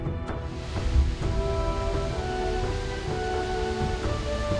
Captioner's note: waterfall crashing